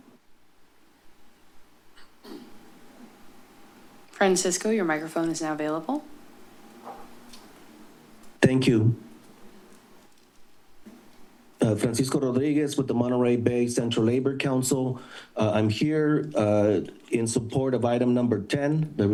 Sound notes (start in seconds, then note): 2.0 pause